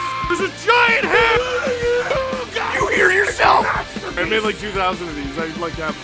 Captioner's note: Harry potter screaming; screaming